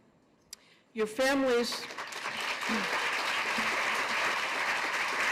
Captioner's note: applause